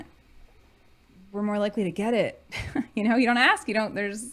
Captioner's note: chuckling